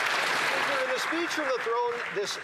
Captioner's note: some Applause